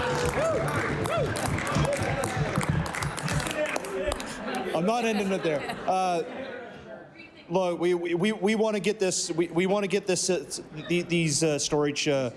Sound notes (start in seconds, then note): 0.0 applause; 3.6 cheering/Applause